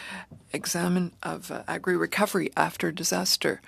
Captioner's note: speaking in french